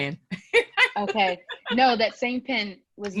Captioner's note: laugh